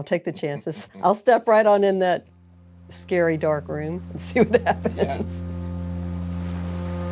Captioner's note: laughs